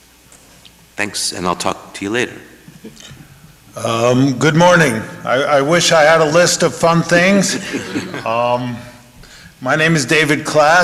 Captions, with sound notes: Thanks, and I'll talk to you later. - Good morning. I wish I had a list of fun things. (panel chuckling) My name is David Klass.